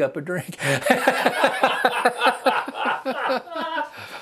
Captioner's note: laughter